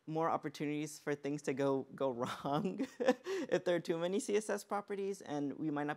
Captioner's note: laughs